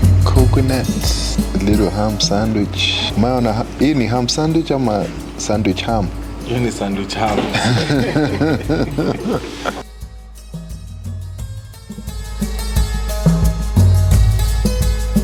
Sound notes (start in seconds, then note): 3.7 swahili; 6.3 laughs